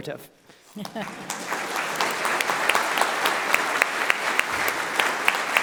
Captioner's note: audience clapping